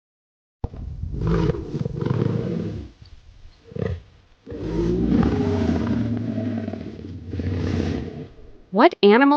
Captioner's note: animal Sound